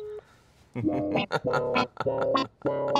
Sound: laughs maniacally; playful music continues

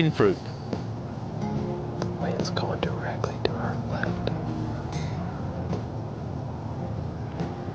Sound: whispering

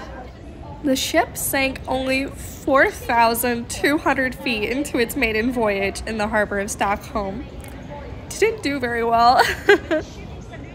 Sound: laughing

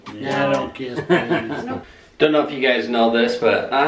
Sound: laughter

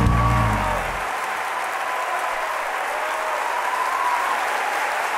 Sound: audience applauding

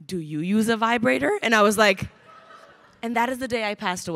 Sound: crowd laughing

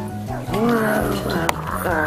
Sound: monster roars

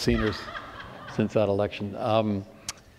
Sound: laughter

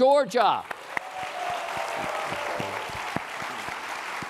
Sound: applause

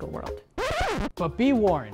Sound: record scratch

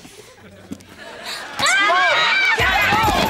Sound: screaming

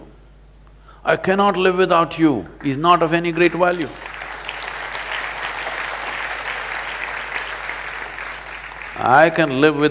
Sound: applause

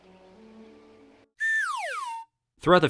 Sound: slide whistle

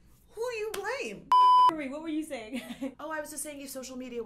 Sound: beep

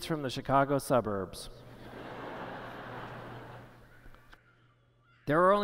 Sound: laughter

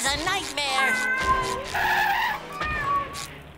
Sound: meowing

